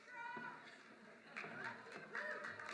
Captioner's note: applause